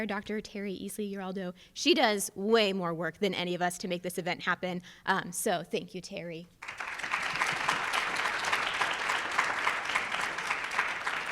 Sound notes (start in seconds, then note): 6.6 audience applauds